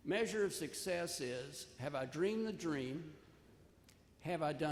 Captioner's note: none